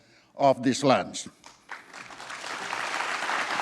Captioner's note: applause